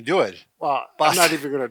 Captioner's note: laughing